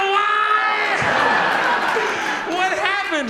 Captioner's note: audience laughs